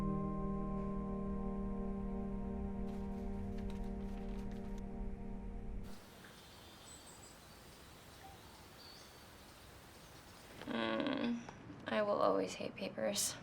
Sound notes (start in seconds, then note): 2.9 paper rustling; 5.9 insects chirping